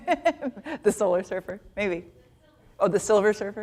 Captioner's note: chuckles